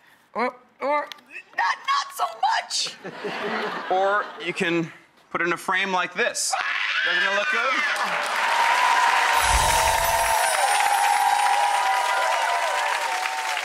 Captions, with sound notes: Or not soo much! (crowds laughing) Or you can put it in a frame like this. Doesn't it look good! (clapping and cheering)